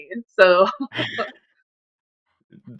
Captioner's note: laughs